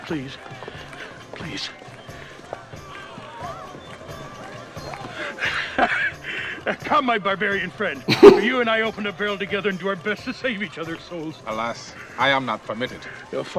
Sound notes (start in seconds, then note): 5.4 chuckles; 8.1 laughs